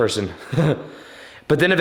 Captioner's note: laughs